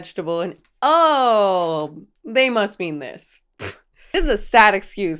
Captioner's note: scoffs